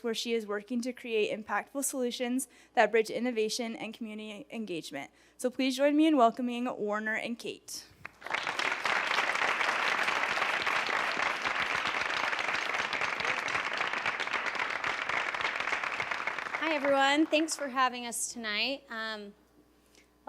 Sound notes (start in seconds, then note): 7.9 applause